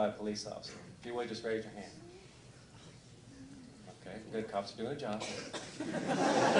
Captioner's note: laughter